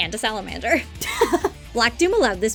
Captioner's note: laughs